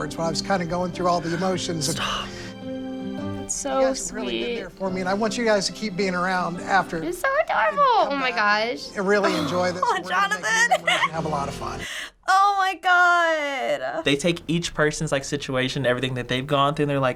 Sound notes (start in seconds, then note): 2.2 whispers; 9.2 giggles